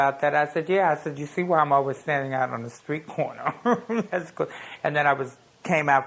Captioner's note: laughs